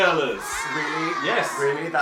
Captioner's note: 'ahh' sound effect